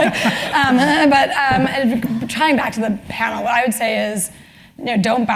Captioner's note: laugh